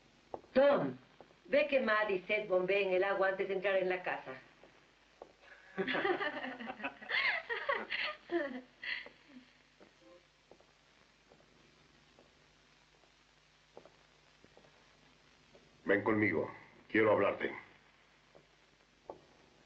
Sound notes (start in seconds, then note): 5.6 chuckling